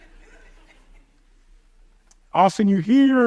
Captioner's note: audience chuckles